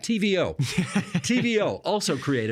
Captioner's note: laughing